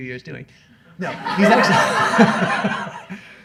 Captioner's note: laughs; laughter